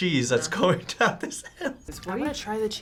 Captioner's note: laughs